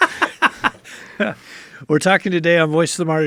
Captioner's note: laughs